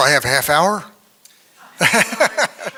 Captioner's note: laughs